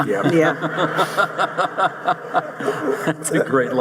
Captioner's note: audience laughing